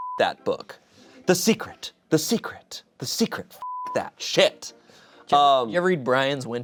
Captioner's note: beep; beep